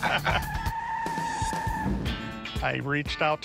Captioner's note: laughter; tires screeching